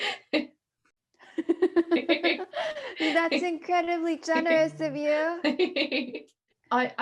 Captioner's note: laughing